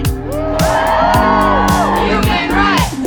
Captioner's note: cheering